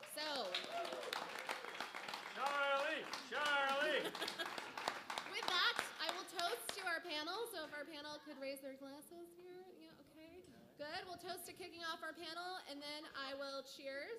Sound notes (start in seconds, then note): 1.6 applause